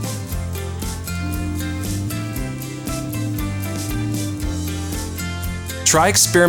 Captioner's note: cups clinking, machine whirring